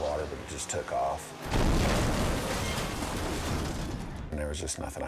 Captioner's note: boat crashing; water splashing